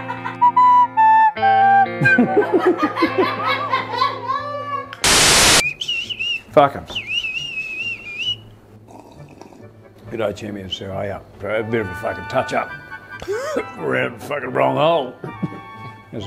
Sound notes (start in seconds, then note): 2.0 all laugh; 6.8 whistles; 8.1 loudly slurps 'tea'; 13.2 cough